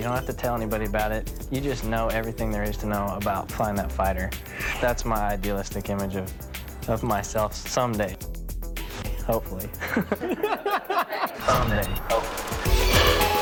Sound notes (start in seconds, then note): 9.7 chuckling